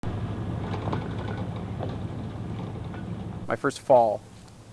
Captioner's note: truck driving